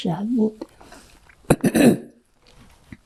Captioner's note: clears throat